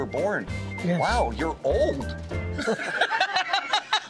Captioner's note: laughs